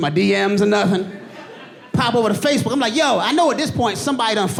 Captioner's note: audience laughing